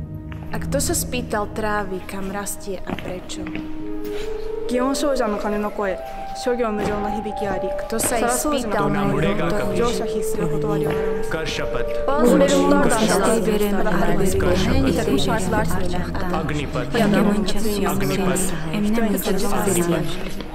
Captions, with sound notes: And who have ever asked the grass where it grows and why? The echo of the bell says that everything in this world changes and nothing stays. (Bustle)